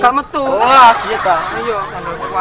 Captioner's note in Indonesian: haha